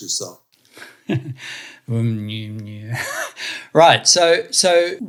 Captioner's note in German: beide lachen